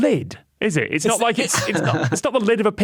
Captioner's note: chuckles